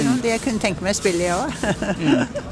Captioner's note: laughter